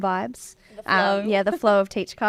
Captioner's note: laughing